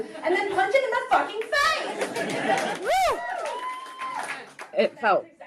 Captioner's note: crowd cheers